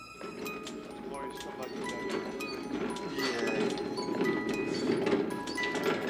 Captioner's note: tinkling music; murmuring